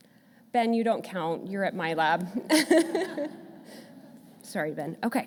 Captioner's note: laughs